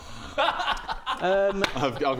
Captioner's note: excited giggle